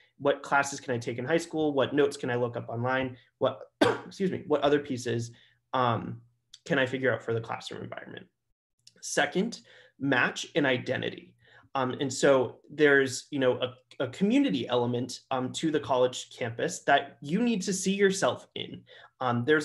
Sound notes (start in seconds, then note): 3.7 coughs